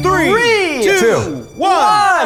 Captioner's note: male Voice